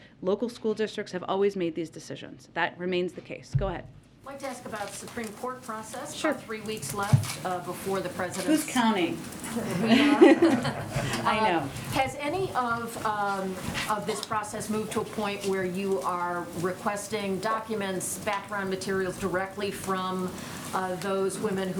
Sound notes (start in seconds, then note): 9.4 laughter